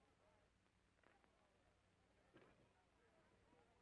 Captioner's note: none